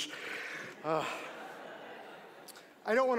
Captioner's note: audience laughing